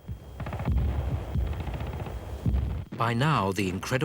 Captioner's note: explosions booming; guns firing